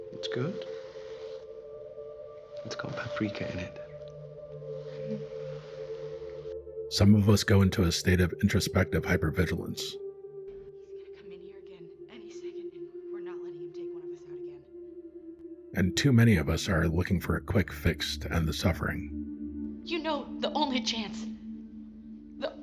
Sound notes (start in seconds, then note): 10.8 muffled voice